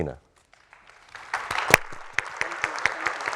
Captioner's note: audience applauding